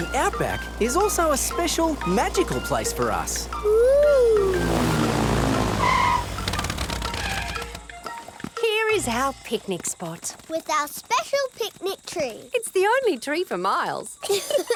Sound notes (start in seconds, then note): 6.1 tires screeching; 14.2 laughing